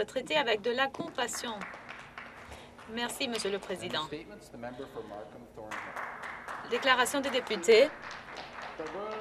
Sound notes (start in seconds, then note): 5.6 applause